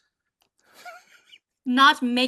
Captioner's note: laughs